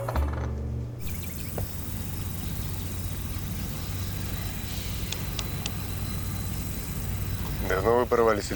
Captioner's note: motor sounds